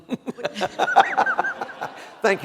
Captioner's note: laughter